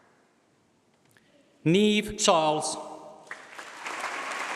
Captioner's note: applause